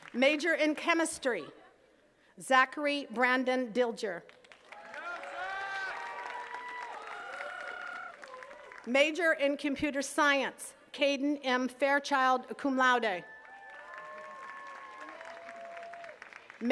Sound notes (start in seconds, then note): 4.4 attendees cheers and claps; 13.2 attendees cheering and clapping